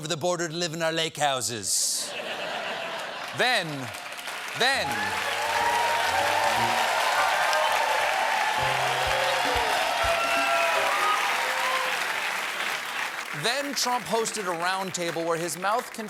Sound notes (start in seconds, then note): 2.8 applause; 3.5 laughter